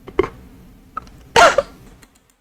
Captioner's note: laughs to myself